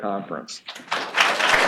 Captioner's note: applause